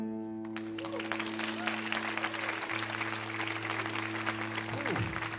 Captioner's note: audience cheering and clapping